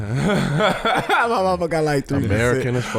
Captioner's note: laughing